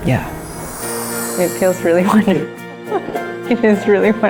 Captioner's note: laughs